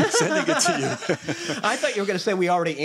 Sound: laughter

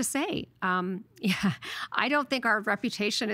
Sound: chuckling

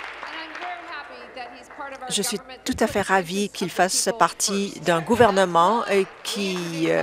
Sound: applause

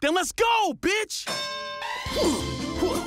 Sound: bell dings

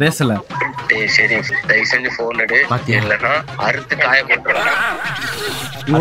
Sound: recorded voice

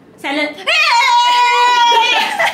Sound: screaming

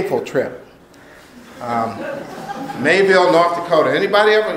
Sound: laughter

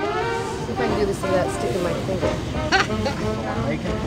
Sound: upbeat music; laughs; upbeat rousing music

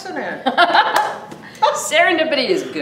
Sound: both laughs

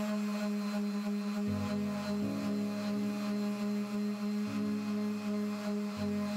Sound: calming music; tool buzzing; calming music; tool buzzing

